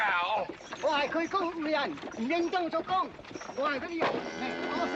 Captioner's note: yammering in Cantonese; cow mooing